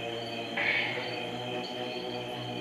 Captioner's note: deep breath